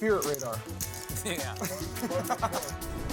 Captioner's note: laughs; upbeat music